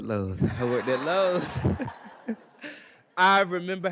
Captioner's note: everybody laughing